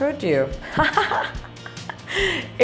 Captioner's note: laughs